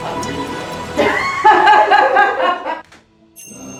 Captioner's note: laughter